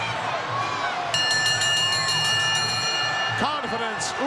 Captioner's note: bell ringing